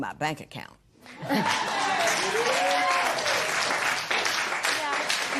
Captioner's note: cheers and applause